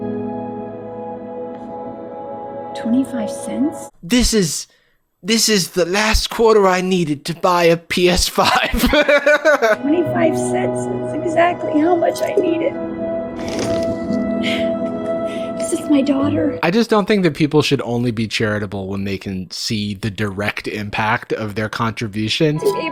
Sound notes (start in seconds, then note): 0.0 dramatic music; 8.3 laughs; 12.8 dramatic music